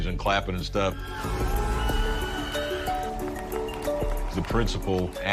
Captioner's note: cheers and applause